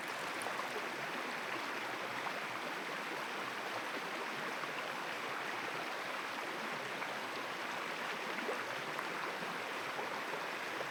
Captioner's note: water pours on ground; running water